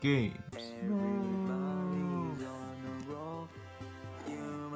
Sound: minion screaming in slow motion; grunting

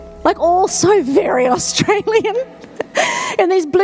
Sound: laughs

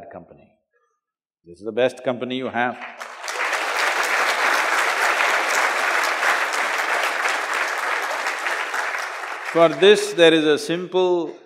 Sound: applause

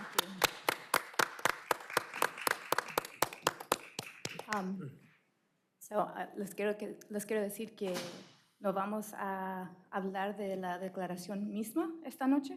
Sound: applause

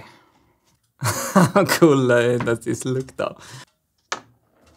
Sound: chuckles

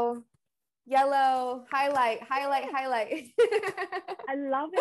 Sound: laughs

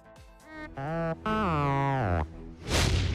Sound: beeps

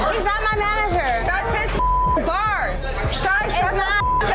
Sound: beeping

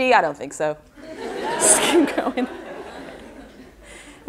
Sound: audience laughter

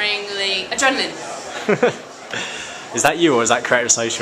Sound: chuckles

